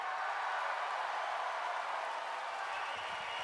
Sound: cheers and applause

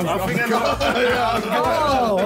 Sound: laughing

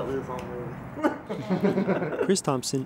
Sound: laughter

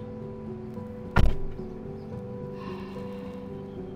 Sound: door shutting; deep sighing

